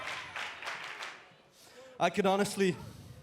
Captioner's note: fans chanting